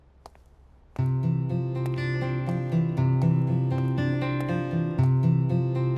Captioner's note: Footsteps